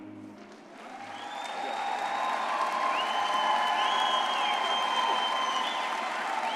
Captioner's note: all applauding and cheering